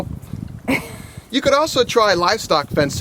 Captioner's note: laughter